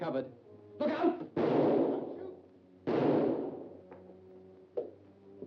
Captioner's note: gunshots blare